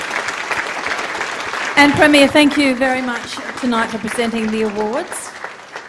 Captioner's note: applause